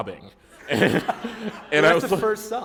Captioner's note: laughter